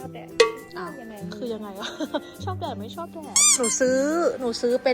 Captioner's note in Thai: หัวเราะ